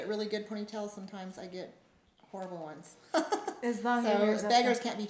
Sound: laughs

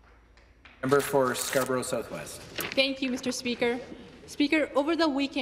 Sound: some Applause

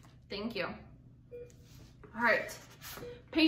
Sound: beeping

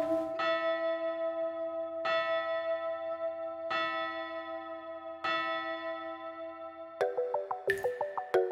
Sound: the bell tolls at midnight

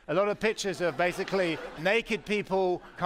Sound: laughter

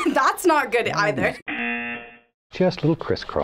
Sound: buzzer

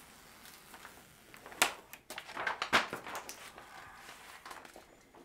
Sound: artwork crackling

